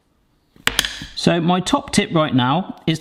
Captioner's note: metal clangs